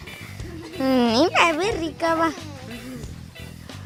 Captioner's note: Rarámuri language